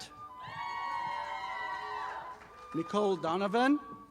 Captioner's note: audience applauding